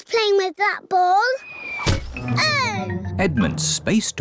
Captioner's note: oinks; thudding